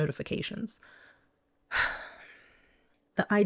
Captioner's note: sigh